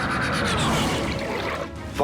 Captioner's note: toilet flush